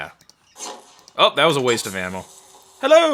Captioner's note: arrow thunking